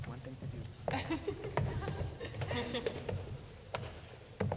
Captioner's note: laughing